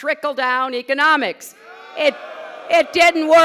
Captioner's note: boos